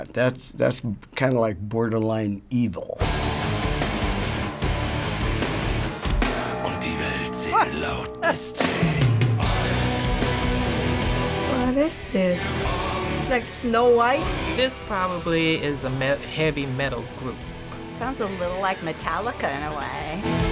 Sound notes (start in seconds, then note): 3.0 intense metal music; 7.8 stammers in confusion